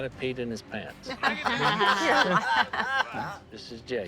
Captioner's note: group laughing